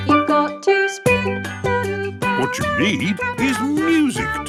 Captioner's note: radio